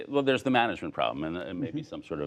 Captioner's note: laughter